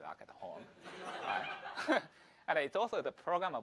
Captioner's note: audience Laughs